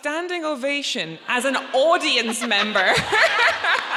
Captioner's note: laughs; audience laughs